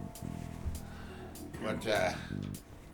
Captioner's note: chuckles